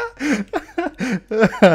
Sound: laughing

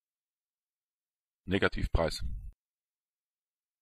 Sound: fast Pronunciation

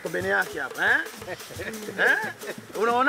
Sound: chuckles

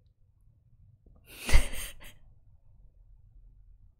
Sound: laughs

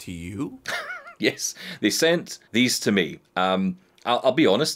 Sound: laughs

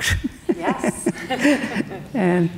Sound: both laughing

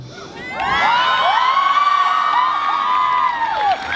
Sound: audience cheers

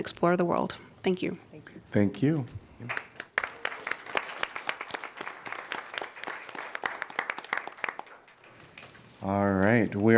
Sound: applause

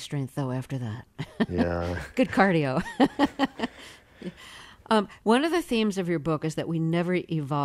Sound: laughter

